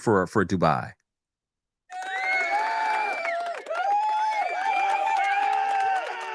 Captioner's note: applause and cheering play